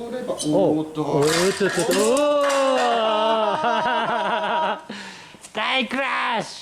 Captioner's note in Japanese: 笑い